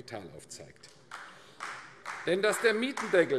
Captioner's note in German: Beifall AfD